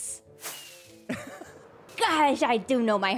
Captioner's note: laughs